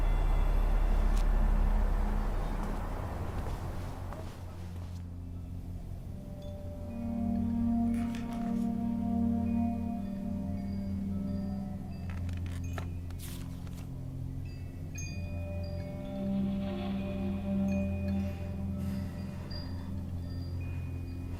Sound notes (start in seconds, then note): 11.7 wind chimes outside the window; 14.7 soft, deep, flute music plays